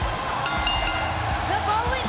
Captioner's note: bell ringing